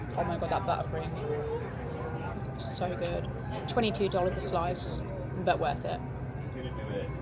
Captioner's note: none